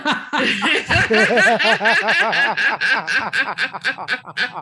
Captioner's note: everyone laughing